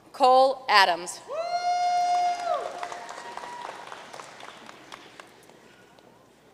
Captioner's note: audience cheering and applauding